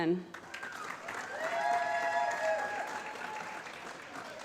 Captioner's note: applause